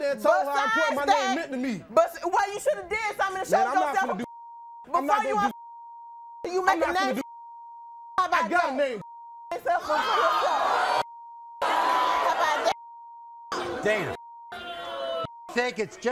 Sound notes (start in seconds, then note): 9.6 audience boos